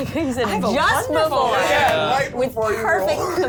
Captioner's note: overlapping chatter